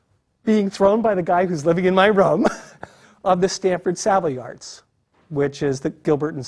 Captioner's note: laugh